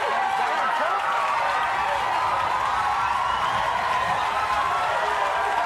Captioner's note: audience cheering